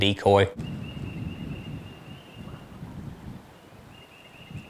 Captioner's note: birds chirping